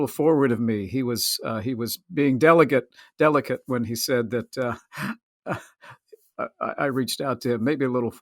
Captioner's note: laughs